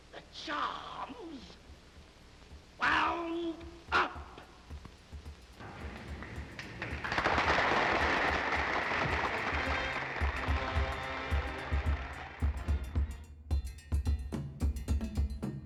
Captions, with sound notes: The charm's wound up. [APPLAUSE]